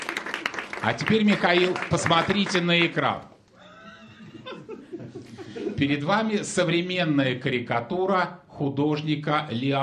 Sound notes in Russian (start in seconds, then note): 0.0 аплодисменты; 3.6 смех